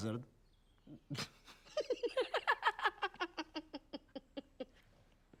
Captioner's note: laughs; sniggers